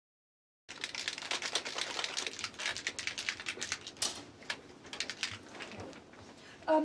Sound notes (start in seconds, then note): 0.7 shaking of spray can